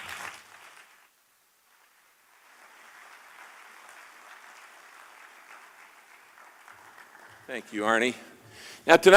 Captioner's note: applause